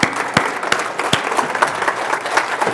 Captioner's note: applause